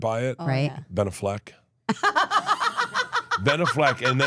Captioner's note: laughs